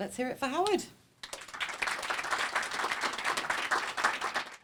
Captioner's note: applause